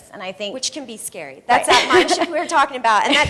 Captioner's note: laughing